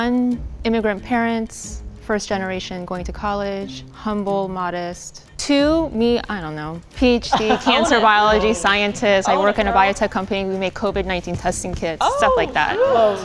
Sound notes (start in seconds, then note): 7.2 all laughing